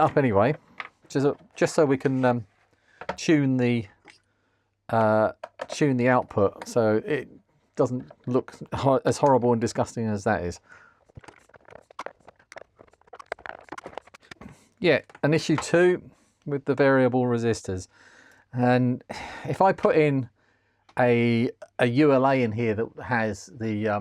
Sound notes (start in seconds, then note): 11.2 typing